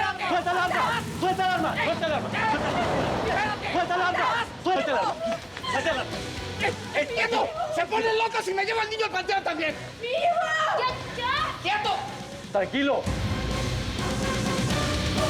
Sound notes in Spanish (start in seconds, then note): 3.1 sonido del motor; 5.0 gritos